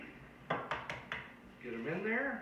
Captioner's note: taps egg on container